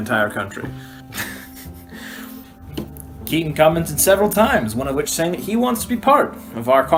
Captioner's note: laughing